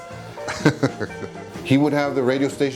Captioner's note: chuckling